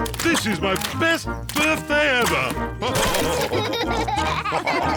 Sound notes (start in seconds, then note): 2.9 all laugh